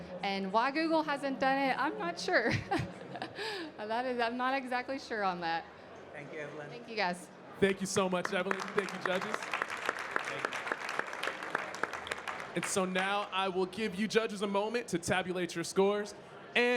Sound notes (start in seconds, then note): 3.5 laughing; 7.6 audience clapping